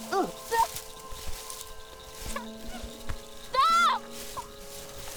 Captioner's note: both grunting